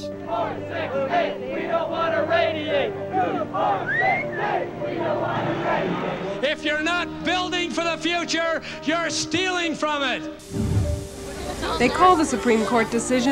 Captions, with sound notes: [chants] four-six-eight! We don't want to radiate! two-four-six-eight! We don't want to radiate! If you're not building for the future, you're stealing from it! Reporter:They call the supreme court decisiona t,